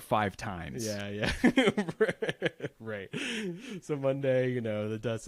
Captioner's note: laughs